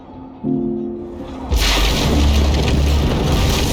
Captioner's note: crash